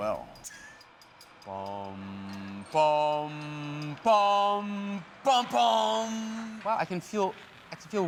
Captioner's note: humming